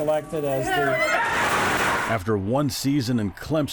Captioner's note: crowd screaming